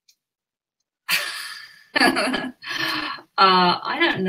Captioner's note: laughs